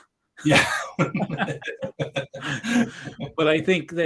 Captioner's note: both laughing